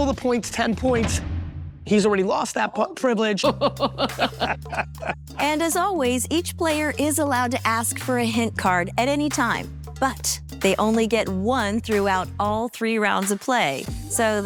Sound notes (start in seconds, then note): 3.4 laughing